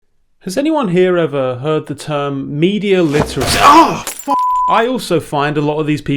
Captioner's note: beep